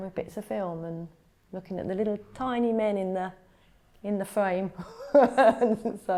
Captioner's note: laughs